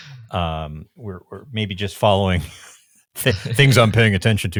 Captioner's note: chuckling